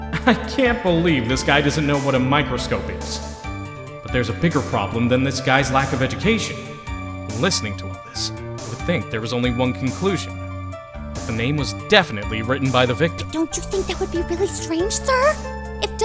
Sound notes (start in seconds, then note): 7.5 whispering